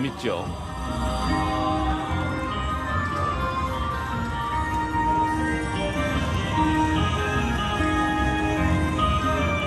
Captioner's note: sounds of slot machines